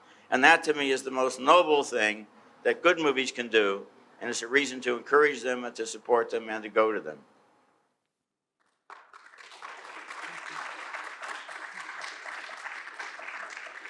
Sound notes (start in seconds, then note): 8.8 audience applauding